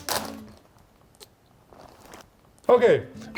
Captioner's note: bag rustling